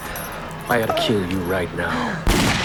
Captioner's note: fires gun